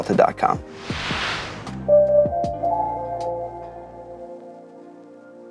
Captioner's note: logo whooshing in